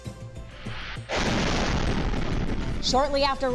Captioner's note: bomb blares